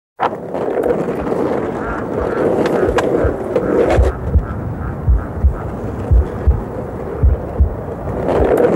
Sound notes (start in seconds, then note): 0.2 skateboards rolling; 4.7 heart thudding